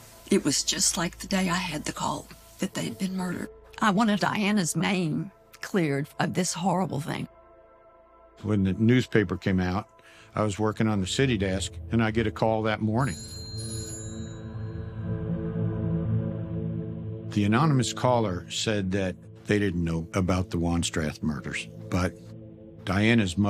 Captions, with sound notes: and it was just like the day I had the call that they had been murdered. I wanted Diana's name cleared of this horrible thing. When the newspaper came out, I was working on the city desk, and I get a call that morning. [phone ringing] The anonymous caller said that they didn't know about the Wanstrath murders,